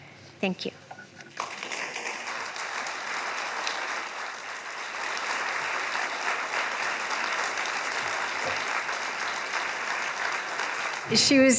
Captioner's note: applause